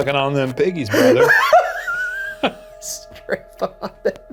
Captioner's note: both laughs